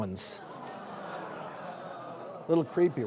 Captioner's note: audience chattering